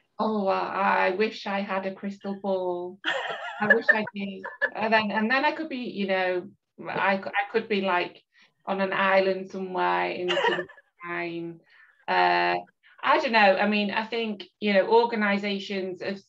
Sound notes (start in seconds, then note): 4.3 laughs